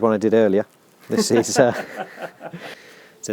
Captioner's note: laughs